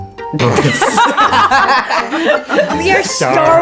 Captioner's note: laughing